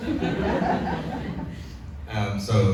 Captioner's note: audience laughs